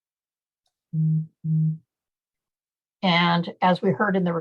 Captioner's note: beeping Sound